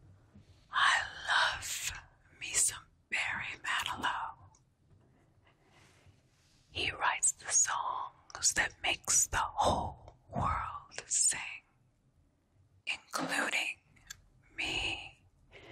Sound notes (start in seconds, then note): none